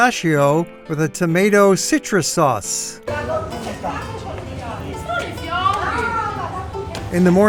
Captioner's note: chatter on the street